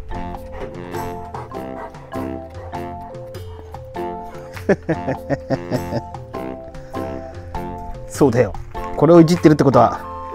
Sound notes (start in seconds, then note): 4.5 laughs